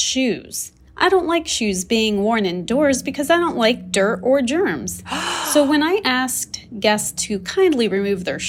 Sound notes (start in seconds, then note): 5.0 gasp